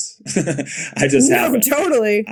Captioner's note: Bode laughing